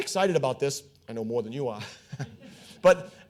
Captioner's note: all chuckling